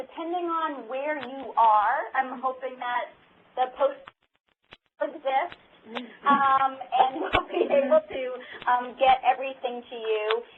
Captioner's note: laughter